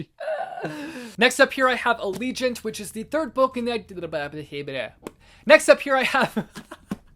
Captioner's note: laughter